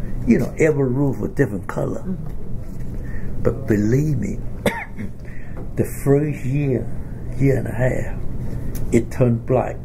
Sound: coughs

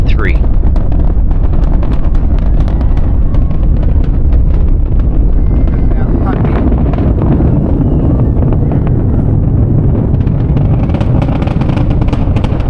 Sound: loud roaring crackling rocket sound

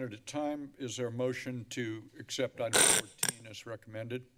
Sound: screeching noise

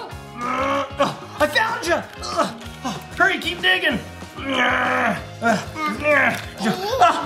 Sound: grunts

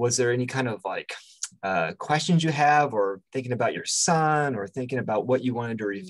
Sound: lip smack

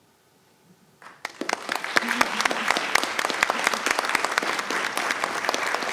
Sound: attendees applauding

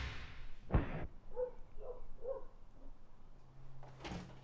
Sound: dogs barking

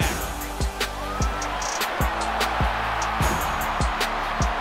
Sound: crowd cheering

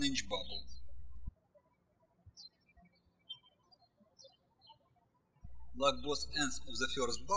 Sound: birds chirping

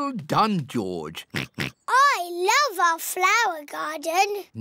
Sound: oinks

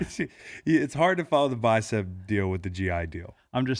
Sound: laughs

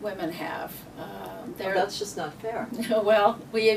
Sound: mock Indignance; laughs

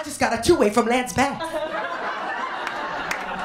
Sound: laughter, applause, and cheering

